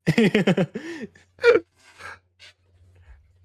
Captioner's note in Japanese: 笑い